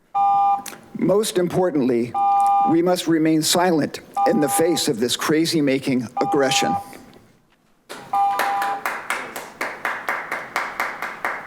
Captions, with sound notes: (continuous beeping) Most importantly, we must remain silent in the face of this crazy making aggression. (audience applauding)